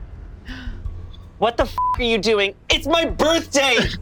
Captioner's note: beep